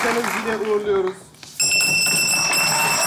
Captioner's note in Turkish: Zil sesi